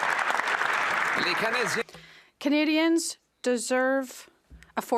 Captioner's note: applause